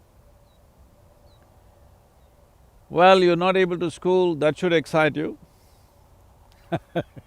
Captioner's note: laughs